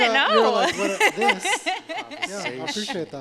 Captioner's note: laughter